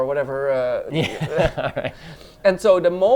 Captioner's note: both chuckle